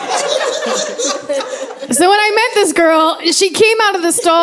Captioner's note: laughter